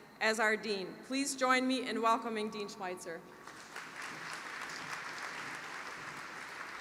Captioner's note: applause